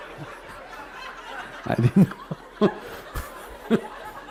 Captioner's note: all Laugh